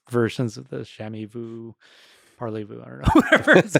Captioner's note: speaking in French